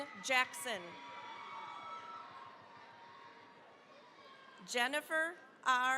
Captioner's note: cheering, applause